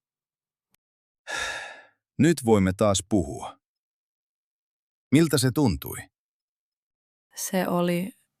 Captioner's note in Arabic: يُزفر